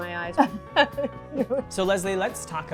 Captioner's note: laughing